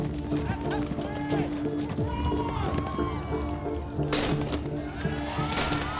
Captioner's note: spectators cheering and yelling